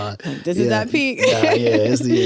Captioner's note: laughs